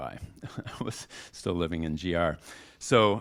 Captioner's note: chuckles